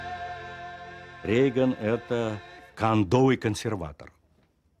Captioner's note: speaking Russian